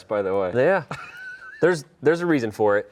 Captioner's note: laughs